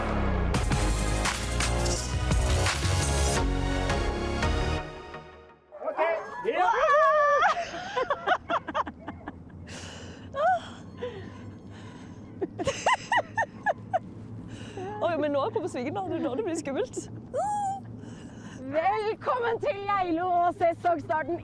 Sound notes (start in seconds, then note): 17.0 they laugh